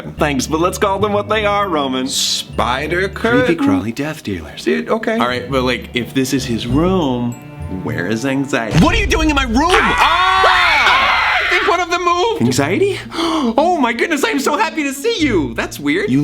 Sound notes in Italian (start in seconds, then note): 9.6 urla; 9.7 urla un super acuto